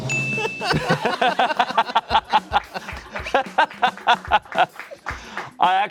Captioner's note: bell dings; laughing